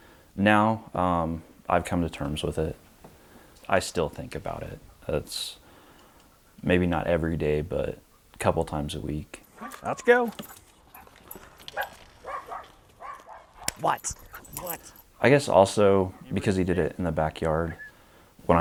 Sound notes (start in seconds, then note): 12.2 dog barks